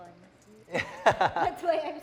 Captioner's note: laughs